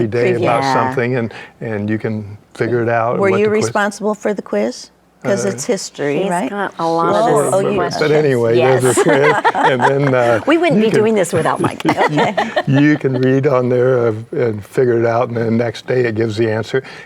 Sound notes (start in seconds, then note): 12.4 laughs